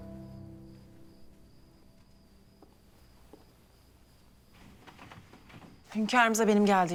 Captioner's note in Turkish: Ayak sesi